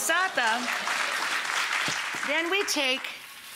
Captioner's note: applause